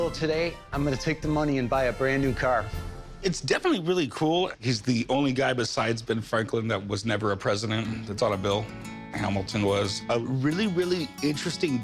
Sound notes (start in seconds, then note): none